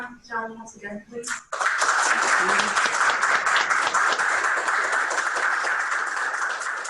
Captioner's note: applause